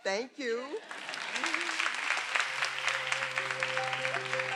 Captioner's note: everyone applauding